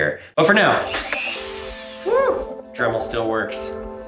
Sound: metal milling

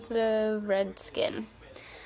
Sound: none

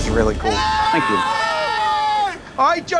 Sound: all shouting

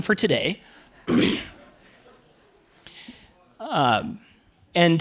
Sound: clears throat

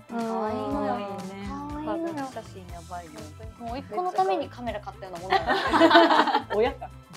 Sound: laughs

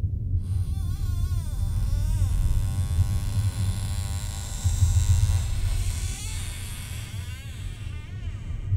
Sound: door squeaks open slowly

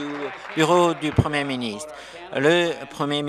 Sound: applause

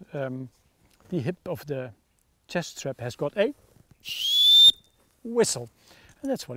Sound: whistling

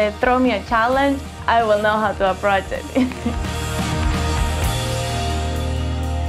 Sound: laughs

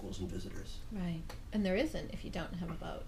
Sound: voiceover

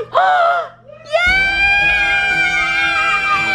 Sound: in Unison

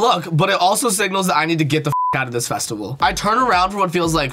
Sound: beep

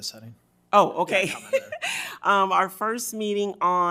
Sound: speaks faintly

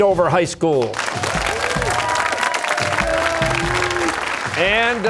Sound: cheers and applause

